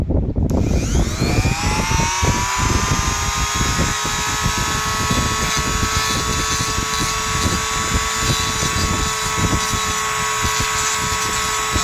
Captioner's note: grinding sound